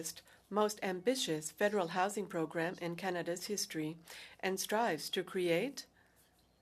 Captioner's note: speaking French